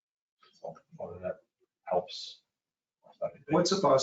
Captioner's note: speaking faintly